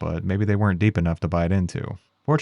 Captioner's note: none